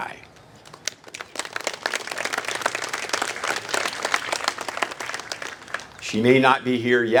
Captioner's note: applase